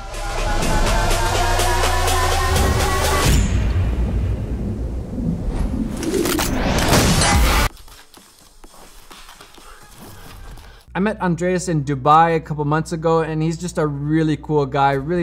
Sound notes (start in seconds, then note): 0.0 exciting techno music; 6.8 fires gun; 6.9 explosion